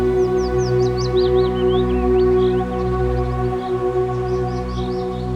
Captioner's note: birds chirping